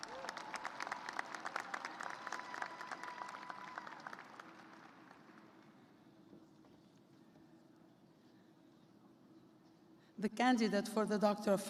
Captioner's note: cheers and applause